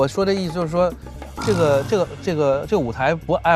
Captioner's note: nervous stutter